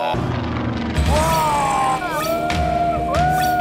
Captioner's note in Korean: 감탄